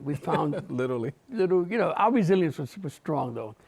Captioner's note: chuckles